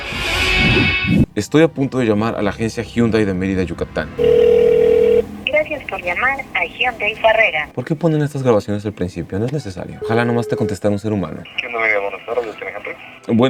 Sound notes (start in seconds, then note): 4.0 recorded voice; 4.2 phone ringing; 11.3 voice over the phone